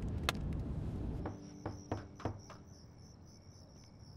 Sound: knocking

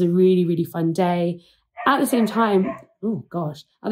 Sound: dog barking

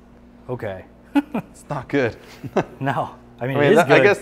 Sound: laughs

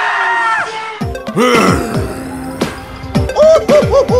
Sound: screams; grrrrr

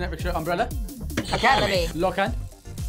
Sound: buzzer rings

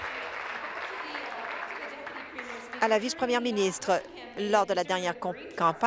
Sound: applause

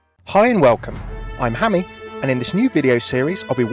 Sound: voiceover

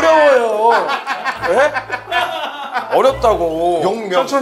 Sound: hahaha

